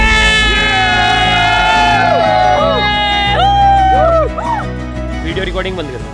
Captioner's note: cheering